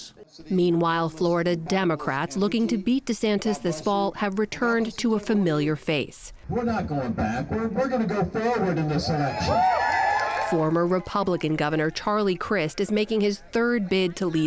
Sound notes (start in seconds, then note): 9.0 cheering and applause